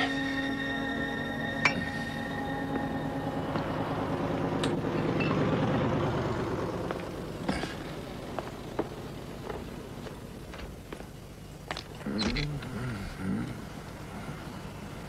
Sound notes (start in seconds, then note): 5.1 glass clinking